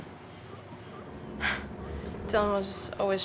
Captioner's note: scoffs